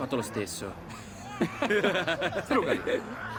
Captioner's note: Ezio and Federico laugh